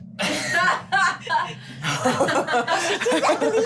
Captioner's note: laughing